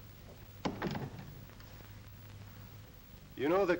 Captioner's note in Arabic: يغلق الباب